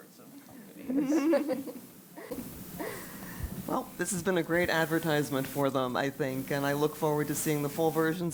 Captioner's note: laugh